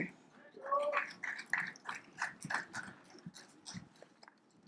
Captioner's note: audience applauds